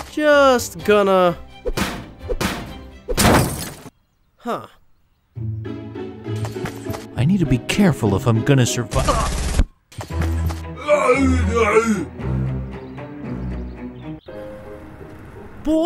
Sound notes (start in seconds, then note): 3.2 metals clanking; 5.4 upbeat music; 8.9 gun shots firing; 12.1 upbeat tense music; 14.6 upbeat calm music